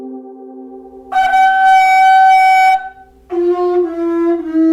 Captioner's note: seashell blowing